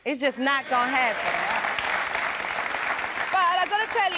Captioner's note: clapping